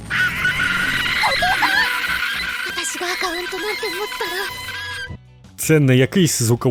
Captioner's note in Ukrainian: шалений крик АААААААААААААААА